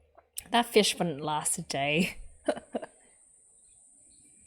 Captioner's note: laughs